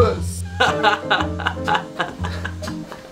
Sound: laughs

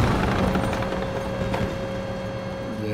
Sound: turret whirring into position

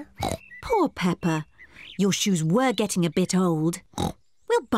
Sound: oinks

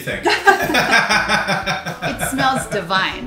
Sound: both laugh

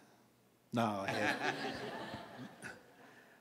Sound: laughs

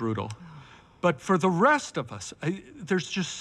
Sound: sighing

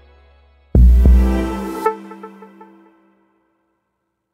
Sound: booming

